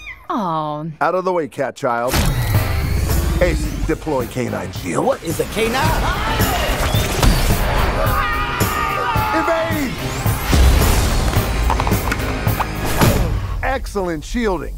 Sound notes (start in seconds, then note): 7.9 both yelling